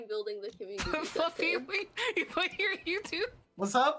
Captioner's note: laughs